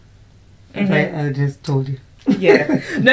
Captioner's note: laughs